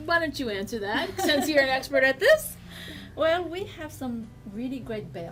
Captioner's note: laughs